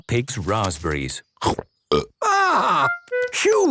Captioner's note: burps